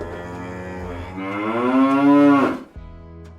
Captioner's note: cow moos